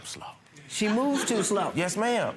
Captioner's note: crowd laughs